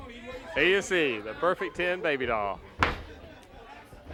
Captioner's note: crowd chatter